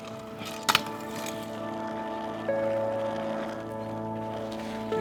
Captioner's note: wheels rattling; wheels slamming